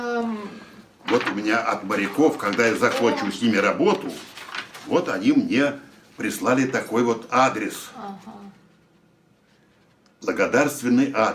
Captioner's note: foreign language